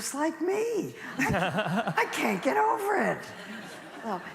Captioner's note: laughter